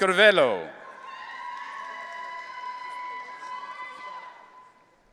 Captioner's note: audience cheering